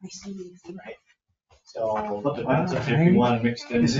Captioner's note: all chattering